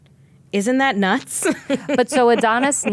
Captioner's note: laughing